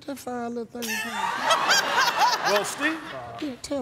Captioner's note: laughter